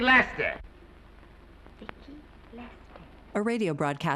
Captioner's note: quietly